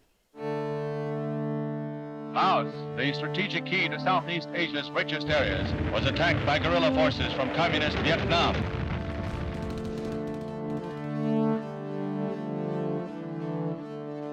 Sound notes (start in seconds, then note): 8.7 explosions booming; 11.6 gentle music